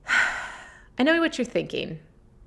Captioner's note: sighs